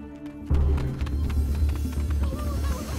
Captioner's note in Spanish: Pasos apresurados de la carrera